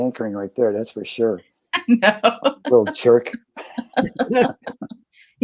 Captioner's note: laughter